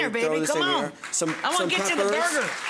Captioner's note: applause